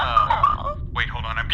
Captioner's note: Seesu laughs, message pings